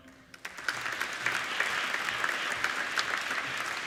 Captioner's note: applauding